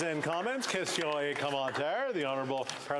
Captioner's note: some Applause